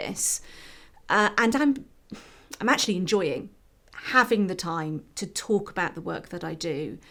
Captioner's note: sigh